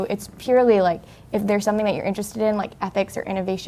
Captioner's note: none